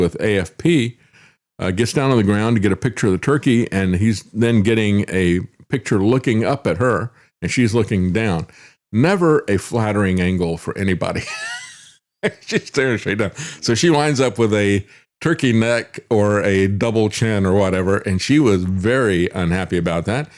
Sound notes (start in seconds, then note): 11.2 laughs